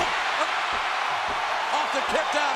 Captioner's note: crowd cheers